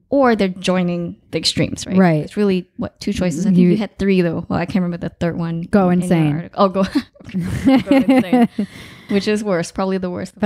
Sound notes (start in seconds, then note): 6.8 laughing